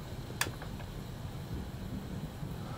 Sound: light click

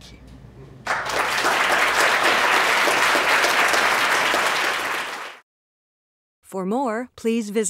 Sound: applause

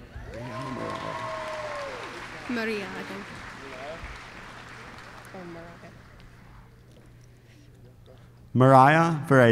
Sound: applause

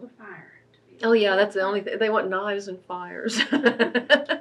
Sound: laughs

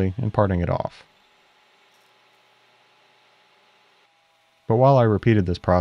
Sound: lathe machine whirring

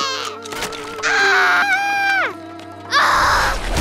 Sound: screams

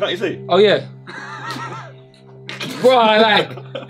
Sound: all laughing

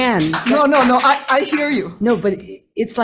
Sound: audience scattered applauding

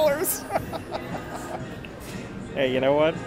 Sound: laughing

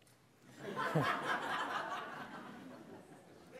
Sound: laughter

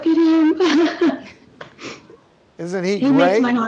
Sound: laughing

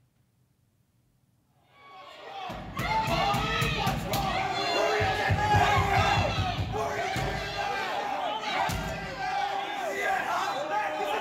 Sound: yelling

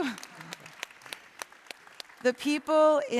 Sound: applause

